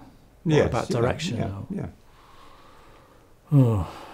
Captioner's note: sigh